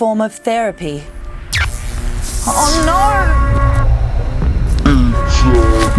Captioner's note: crashing sounds